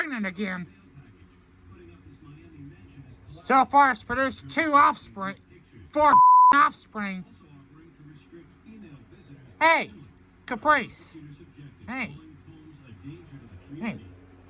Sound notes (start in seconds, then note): 9.9 slurred